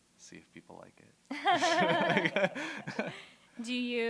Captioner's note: laughter